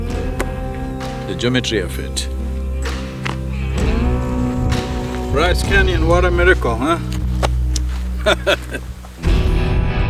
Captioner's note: laughs